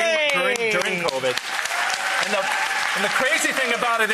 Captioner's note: audience applauds